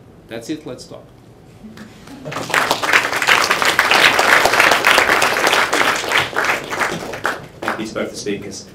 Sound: applause

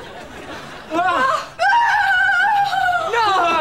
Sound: screaming

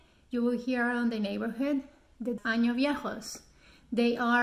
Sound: speaks in foreign language

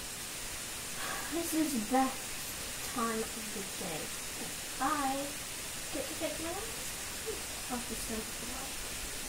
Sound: sigh

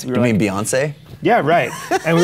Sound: Chase laughs

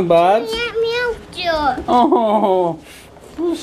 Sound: child mumbling

